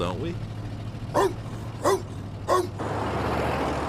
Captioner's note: woof woof woof